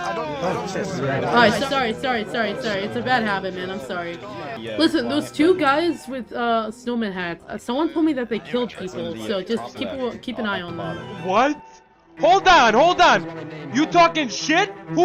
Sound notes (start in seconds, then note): 11.8 shouts